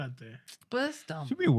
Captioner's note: speaking In Foreign Language